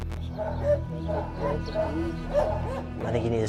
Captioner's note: dogs barking